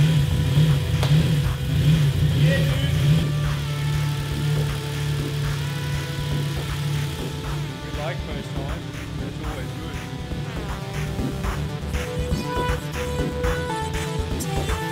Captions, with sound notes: Yeah dude! [engine idling] We like this time! It's always good.